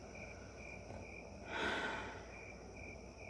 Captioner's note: sigh